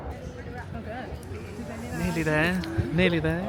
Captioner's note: people talking